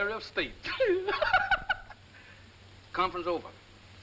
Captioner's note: laughing